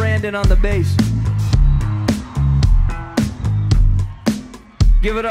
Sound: audience cheers

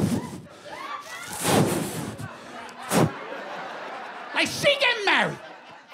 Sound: whooshing

